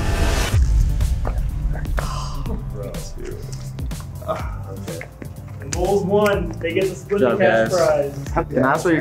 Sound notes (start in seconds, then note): 0.0 dance music; 2.7 gasping